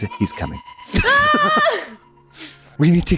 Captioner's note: screams + laughter